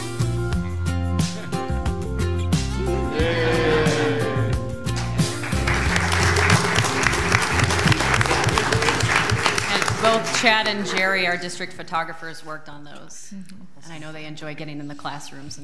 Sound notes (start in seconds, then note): 0.1 inspirational music; 5.4 students cheering; 7.3 audience applauds